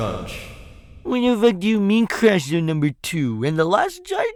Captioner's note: mocking voice